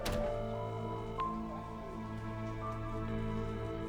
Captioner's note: mystical music; phone rings